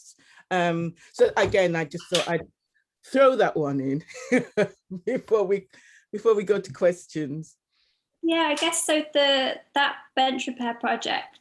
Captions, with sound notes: So, again, I just thought I'd throw that one in (laughs) before we go to questions. - Yeah, I guess, so that Bench Repair Project,